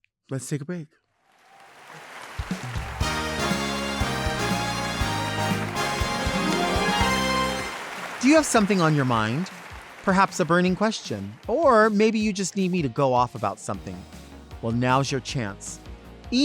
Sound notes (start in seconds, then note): 1.5 adience cheering; 3.0 lively music